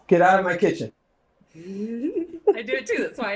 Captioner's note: laughs